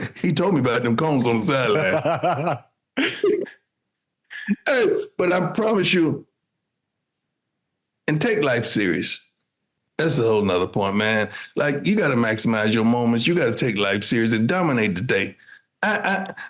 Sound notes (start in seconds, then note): 3.0 laughing